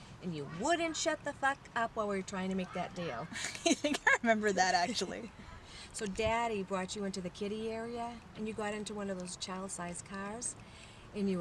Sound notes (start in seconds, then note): 3.3 laughing